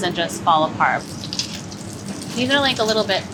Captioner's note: oil sizzling